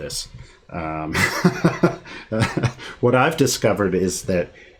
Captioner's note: laughing